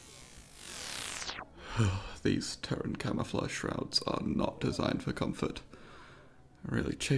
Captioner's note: electronic depowering